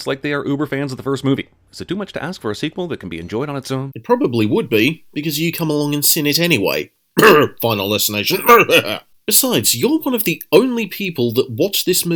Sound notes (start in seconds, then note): 7.2 ahem